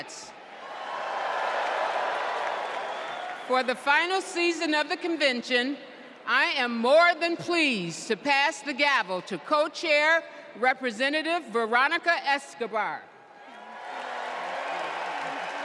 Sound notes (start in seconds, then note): 0.0 applause; 3.2 cheers